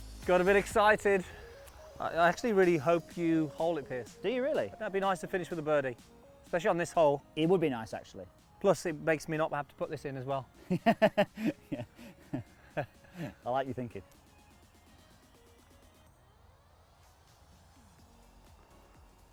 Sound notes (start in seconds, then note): 10.6 laughing; 14.8 soft music